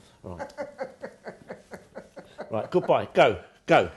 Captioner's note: laughing